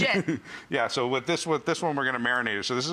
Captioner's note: laughing